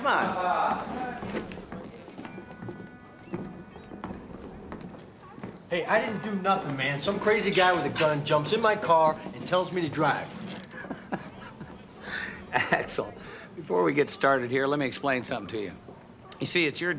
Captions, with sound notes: Come on. Hey, I didn't do nothin', man. Some crazy guy with a gun jumps in my car and tells me to drive. (laughs) Axel, before we get started here, let me explain something to you.